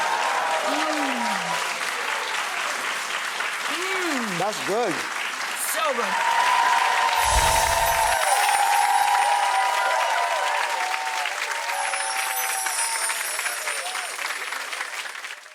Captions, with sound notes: (audience cheers and applauds) Mmm (applause) Mmm That's good! So good! (cheers and applause) (chimes) (chimes)